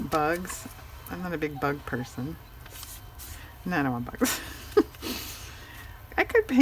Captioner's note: laughs